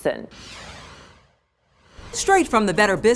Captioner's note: swoosh effect